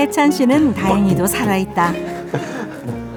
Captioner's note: beatbox with his whole body